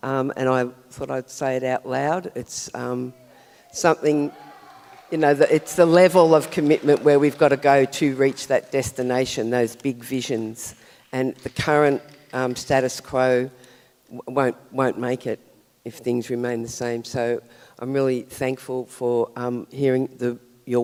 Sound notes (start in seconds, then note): 4.6 audience cheers and applauds; 11.1 clap sticks rattle